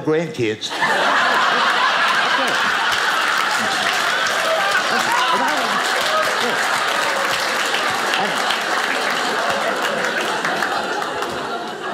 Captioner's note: audience applauding